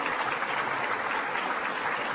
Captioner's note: applause